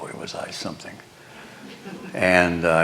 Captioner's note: laughter